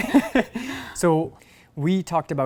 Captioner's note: laugh